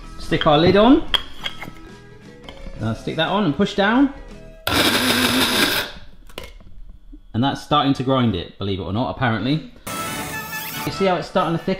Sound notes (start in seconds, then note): 4.6 grinder whirring; 9.8 bright adventure music